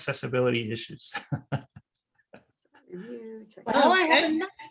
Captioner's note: laughs